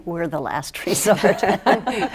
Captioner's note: laughter